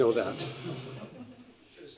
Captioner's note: laughter